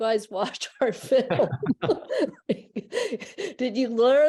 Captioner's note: laugh